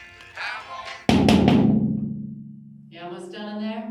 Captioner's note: banging on metal